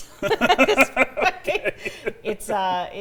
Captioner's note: laughter